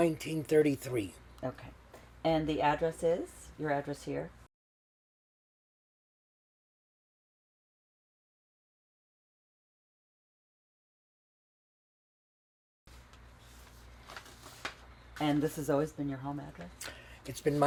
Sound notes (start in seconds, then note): 4.4 pauses 10 seconds